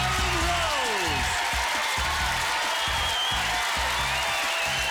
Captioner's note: cheering